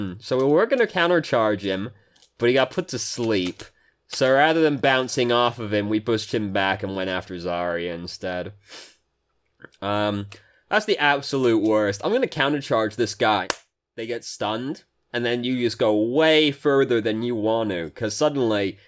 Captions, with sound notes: So we were gonna counter charge him, but he got put to sleep. So rather than bouncing off of him, we pushed him back and went after Zarya instead. That's the absolute worst. "I'm gonna counter charge this guy." [claps] They get stunned, and then you just go way further than you want to, because suddenly,